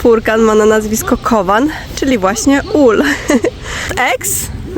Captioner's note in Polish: śmiech